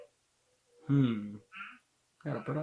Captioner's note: hums in thought